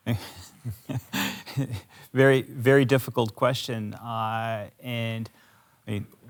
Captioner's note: chuckles